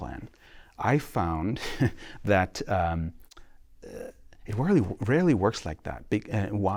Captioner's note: laughter